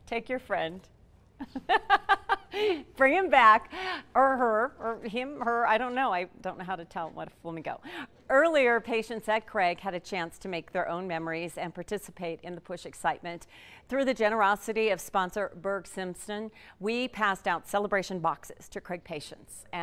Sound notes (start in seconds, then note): 1.4 laughing